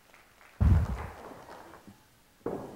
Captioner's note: audience clapping